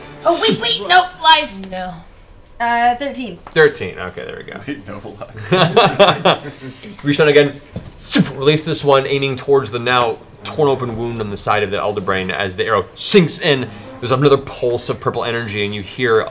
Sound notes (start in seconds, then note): 4.6 laughs